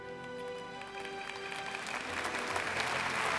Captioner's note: applause